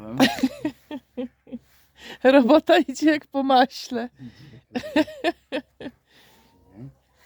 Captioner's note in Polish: śmiech